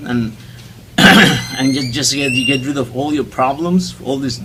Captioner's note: throat Clearing